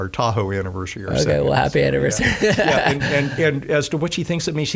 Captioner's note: laughing